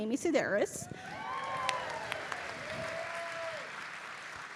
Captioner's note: audience cheering